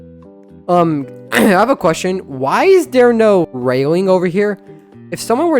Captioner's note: coughs